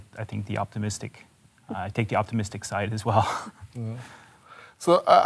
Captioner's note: chuckles